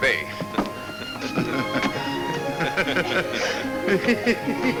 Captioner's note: men chuckle